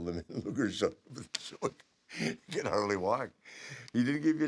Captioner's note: laugh